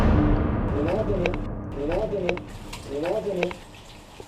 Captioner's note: disembodied Voice